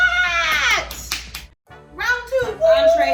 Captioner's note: claps